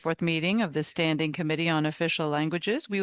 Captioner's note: speaking French